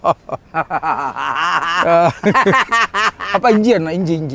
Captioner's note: both laugh